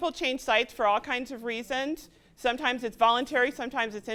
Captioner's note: none